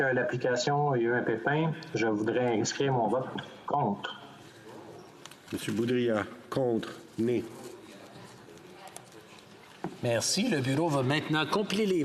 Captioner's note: speaking in French